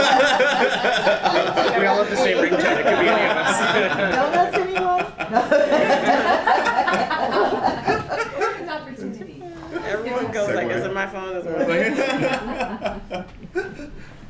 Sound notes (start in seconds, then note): 0.1 laughter; 5.6 laughter; 11.6 laughter